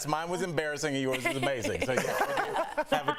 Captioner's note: laughter